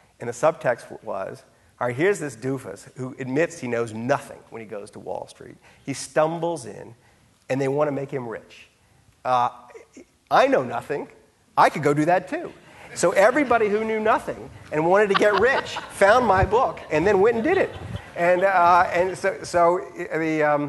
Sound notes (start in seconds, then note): 12.9 audience laughing; 14.9 laughing